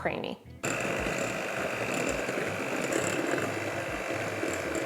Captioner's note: mixer whirling